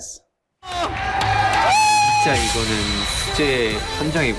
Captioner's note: fan screaming